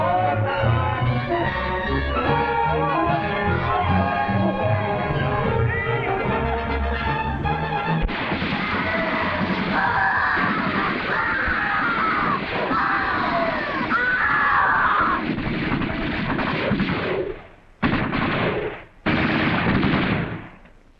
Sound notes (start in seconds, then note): 1.1 tense music; 8.0 gunshots - screaming; 14.8 gunshots